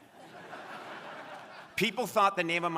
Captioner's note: crowd laughing